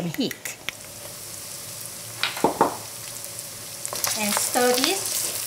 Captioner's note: sizzling